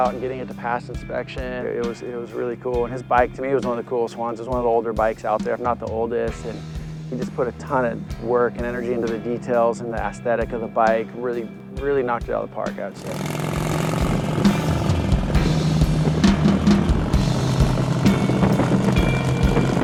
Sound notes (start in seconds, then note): 12.9 motorcycle engine